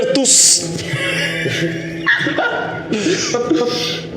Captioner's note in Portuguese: risadas